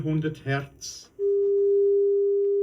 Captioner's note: voice on test record